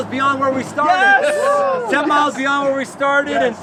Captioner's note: group cheering